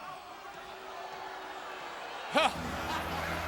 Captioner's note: crowd booing